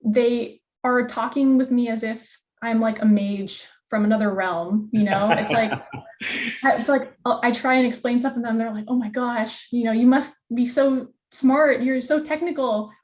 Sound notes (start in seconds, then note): 5.0 laughs